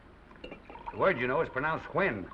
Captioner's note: scotch sloshing